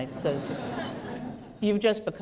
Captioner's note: laughter